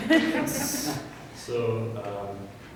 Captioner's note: audience laughing